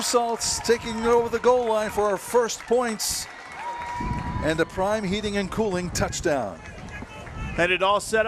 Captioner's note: cheers and applause